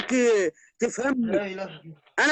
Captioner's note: exclaiming